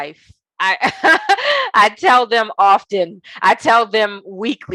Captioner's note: laughing